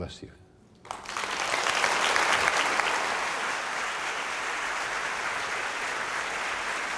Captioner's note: applause